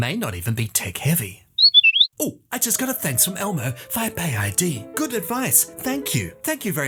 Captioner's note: whistle